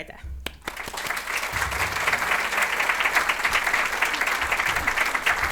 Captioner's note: audience applauding